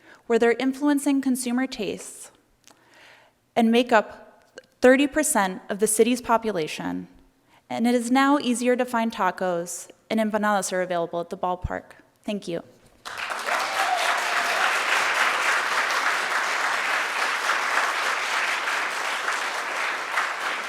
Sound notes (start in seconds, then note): 13.0 audience cheering and applauding